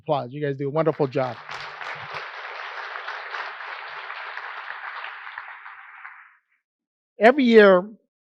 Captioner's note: applause